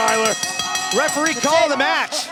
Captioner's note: bell ringing